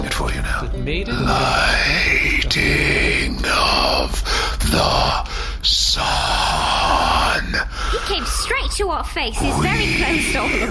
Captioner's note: growling